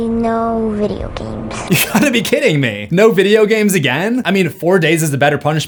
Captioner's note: laughing